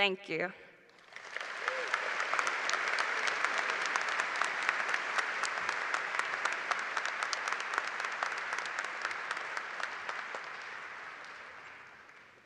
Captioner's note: applause